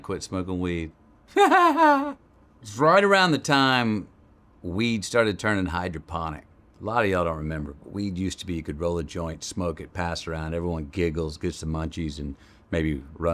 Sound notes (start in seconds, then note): 1.3 Matthew laughs